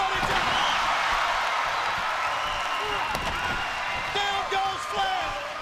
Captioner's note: crowd cheering